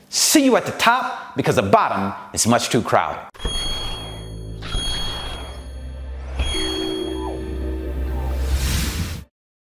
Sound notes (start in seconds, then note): 3.4 whirring; 7.8 whooshing